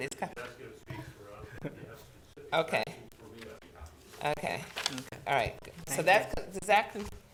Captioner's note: speaking quietly